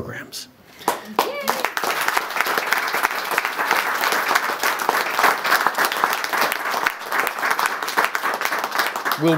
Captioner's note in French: Applaudissements